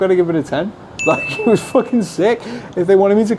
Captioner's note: bell chime